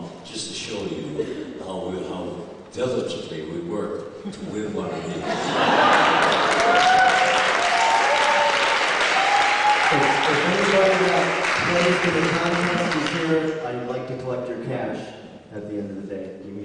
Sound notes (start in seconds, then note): 5.2 laughter and applause